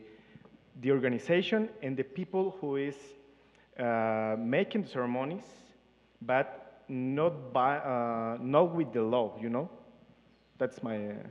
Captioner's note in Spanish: Participante habla en inglés